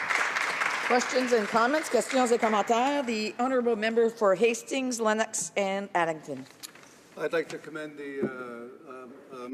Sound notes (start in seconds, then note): 4.0 some Applause